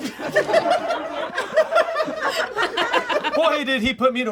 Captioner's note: all laugh